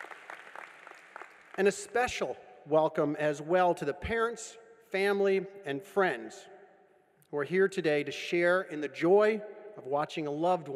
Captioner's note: applause